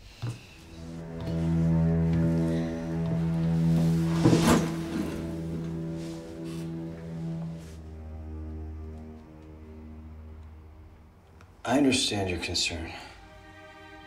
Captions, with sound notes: [indignant sigh] [a thud on the chair] I understand your concern.